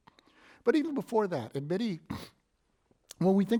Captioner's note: sniffs